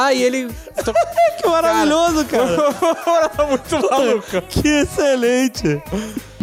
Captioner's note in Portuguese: risos